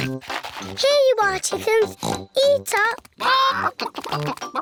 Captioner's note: oinks